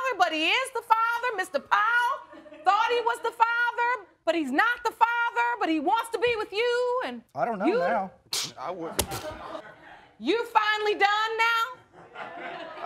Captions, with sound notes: but he is the father. Mr. Powell thought he was the father but he's not the father, but he wants to be with you, and... I don't know now... (SCOFFS) I wouldn't... You're finally done now?